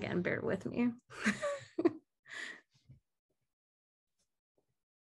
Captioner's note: laughing